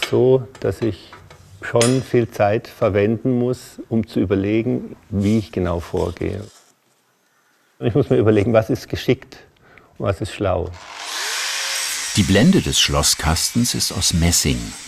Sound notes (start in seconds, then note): 11.0 metallic screeching